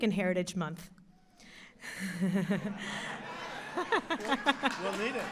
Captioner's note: laughter and Applause